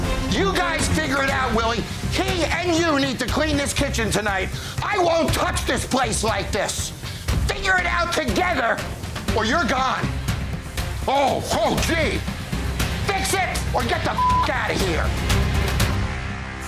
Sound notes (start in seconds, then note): 14.1 beep